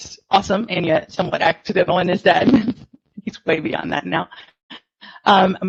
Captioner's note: audio distortion